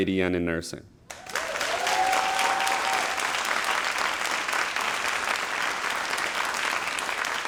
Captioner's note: all applauding and cheering